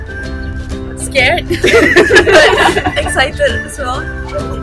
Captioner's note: everyone laughs bcs we RELATE